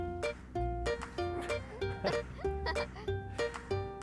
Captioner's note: laughter